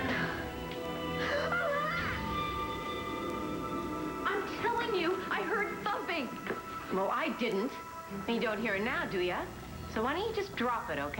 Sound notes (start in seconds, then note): 3.1 roxy screams